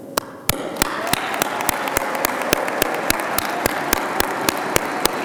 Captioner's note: audience applauding